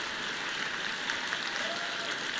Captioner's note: applause